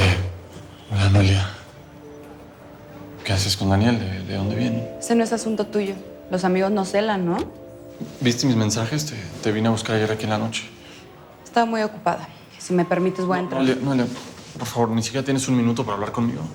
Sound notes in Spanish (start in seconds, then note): none